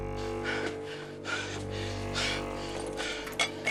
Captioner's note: panting